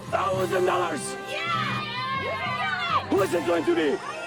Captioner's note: everyone cheering